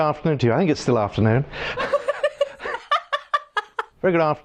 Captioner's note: laughing